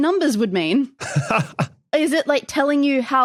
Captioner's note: chuckles